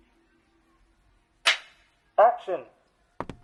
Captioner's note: clap